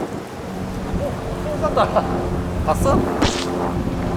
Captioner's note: giggling